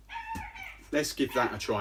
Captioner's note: dog barking